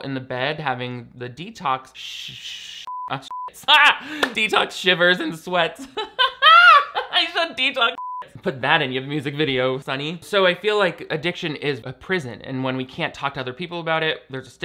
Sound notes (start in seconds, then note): 2.9 beep; 5.6 laughs; 7.9 beep